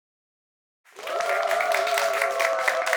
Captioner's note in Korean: 박수 소리